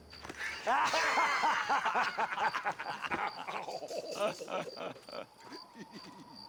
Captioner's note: laughs